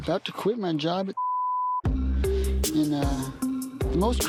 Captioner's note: beeping